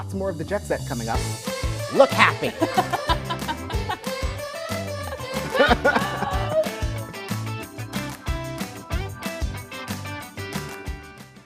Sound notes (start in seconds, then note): 2.3 laughing